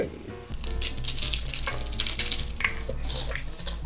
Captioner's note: rustling